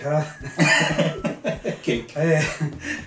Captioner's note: laughing